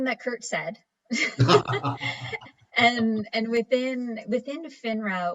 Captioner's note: laughs